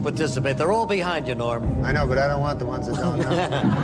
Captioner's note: laughter